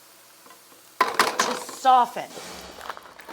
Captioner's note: tongs clang; bag crinkles